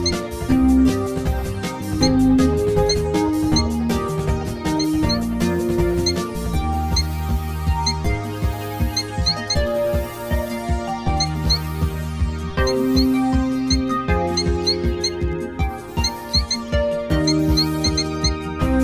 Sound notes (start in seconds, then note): 4.5 cheep, cheep; 14.4 fun music plays